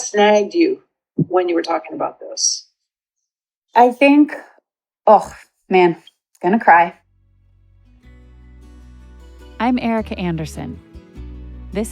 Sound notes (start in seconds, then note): 3.0 on Zoom call; 6.6 speaking emotionally